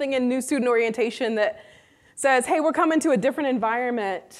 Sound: none

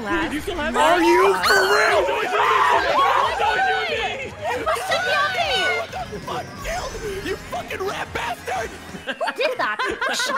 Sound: screams

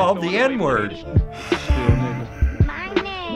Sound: sighing

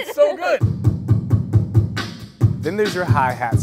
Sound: beatboxing

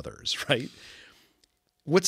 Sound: laugh

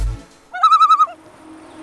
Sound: loon call

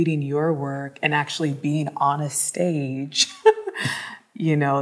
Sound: laughs

